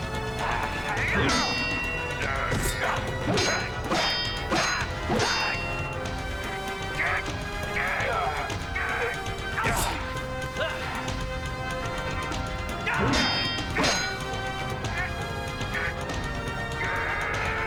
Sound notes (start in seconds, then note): 0.2 grunting